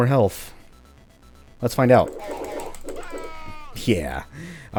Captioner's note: rabid mouse clicking, NPC death cry